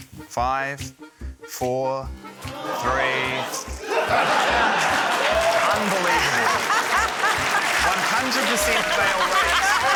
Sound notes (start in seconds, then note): 2.5 audience groans, laughs; 4.5 applause